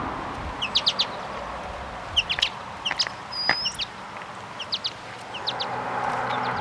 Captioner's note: birds